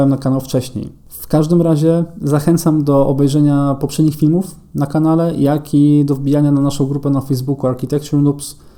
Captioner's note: in Polish only